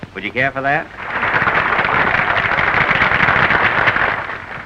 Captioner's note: applause